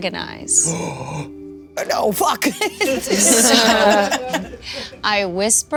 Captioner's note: players laughing